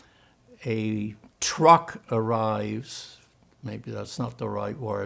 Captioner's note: german